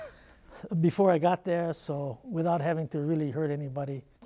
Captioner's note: chuckle